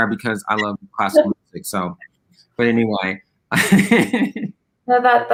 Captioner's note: laughs